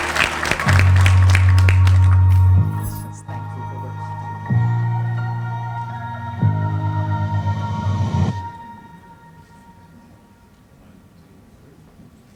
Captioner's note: applause